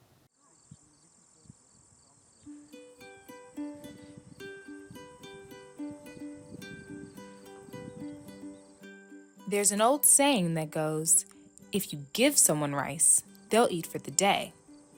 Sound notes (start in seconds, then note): 2.6 crickets chirping; 5.8 peaceful music